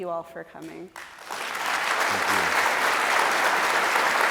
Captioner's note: applause